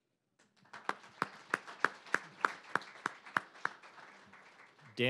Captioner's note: applause